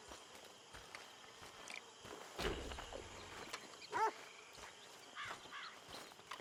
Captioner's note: none